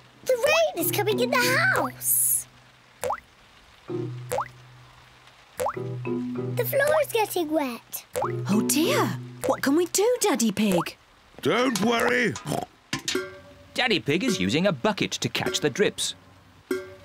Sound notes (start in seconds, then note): 12.0 oinks